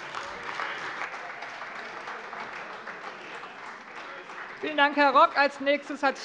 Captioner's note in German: Beifall Freie Demokraten und vereinzelt AfD